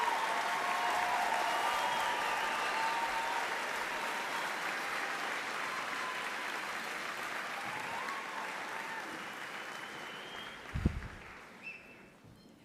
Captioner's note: applause